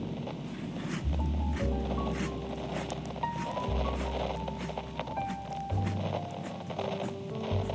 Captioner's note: chewing fx